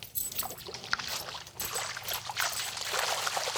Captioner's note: water splashing